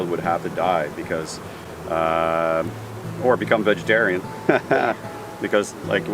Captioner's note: laughs